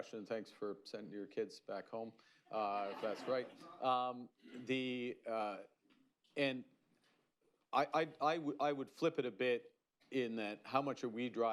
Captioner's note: laughter